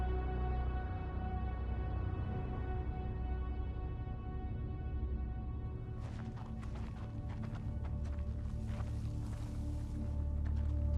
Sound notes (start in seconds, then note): none